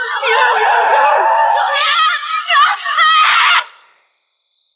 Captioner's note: tires screeching